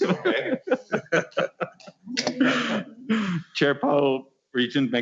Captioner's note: laughing